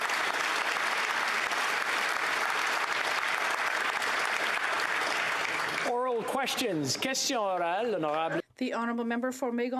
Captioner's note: applause